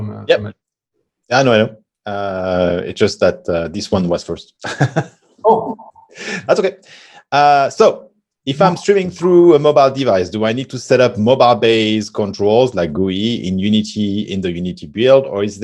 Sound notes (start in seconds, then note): 5.4 laughs